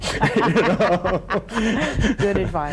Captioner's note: laugh